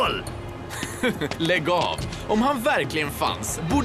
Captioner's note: chuckles